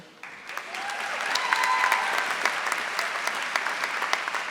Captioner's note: audience applauding